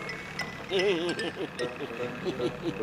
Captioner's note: laughing nervously